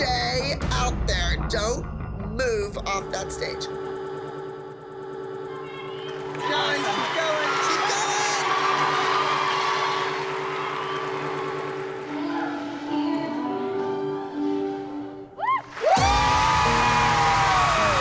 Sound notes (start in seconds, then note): 4.6 music skipping; 6.0 applause